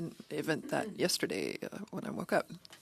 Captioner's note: speaking French